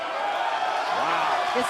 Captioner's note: cheers & applause